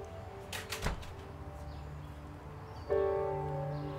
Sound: door shuts

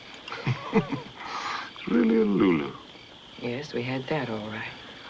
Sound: chuckles

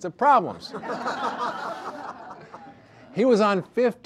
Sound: audience laughter

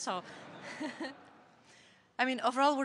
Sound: laughter

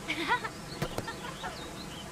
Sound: laughs

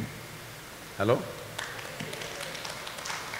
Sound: applause

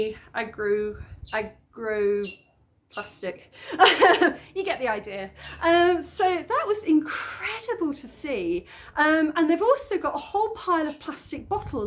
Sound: laughing

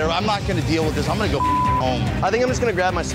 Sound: beeping

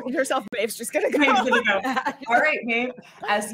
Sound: laughing

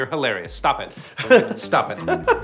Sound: laughs

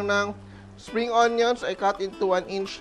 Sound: sizzle

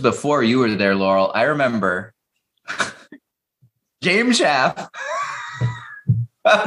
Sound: laughter

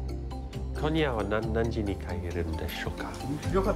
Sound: foreign language

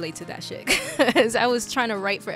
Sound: laughs

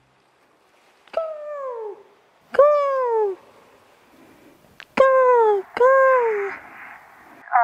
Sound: a seagull caws

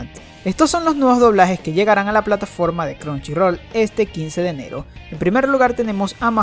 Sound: spanish

